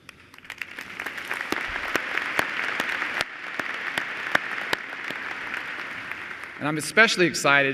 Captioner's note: applause